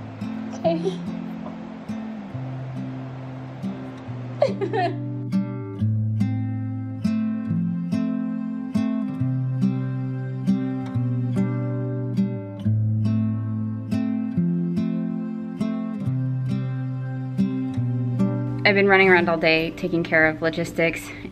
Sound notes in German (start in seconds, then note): 4.4 weinen